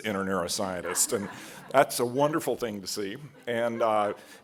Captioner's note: laugh